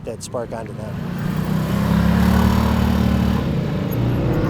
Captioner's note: engine rumbling